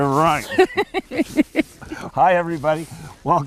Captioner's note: laughs